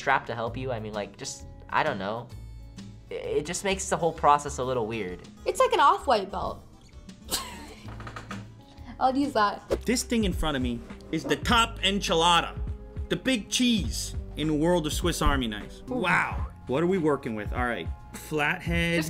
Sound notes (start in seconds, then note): 7.3 laughs